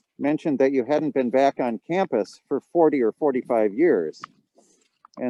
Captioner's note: none